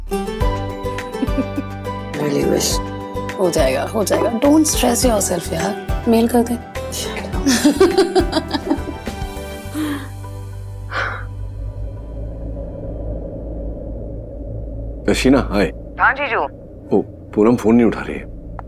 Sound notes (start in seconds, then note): 1.2 Vandy laughs; 7.5 Vandy laughs; 10.8 Ananya exhales